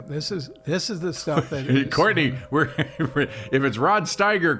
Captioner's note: laughs